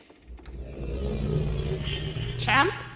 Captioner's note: distorted linking sound